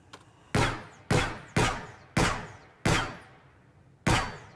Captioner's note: gunshots